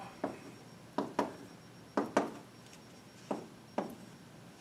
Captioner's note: chalk tapping